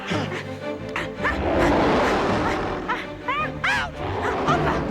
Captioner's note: Scarface growls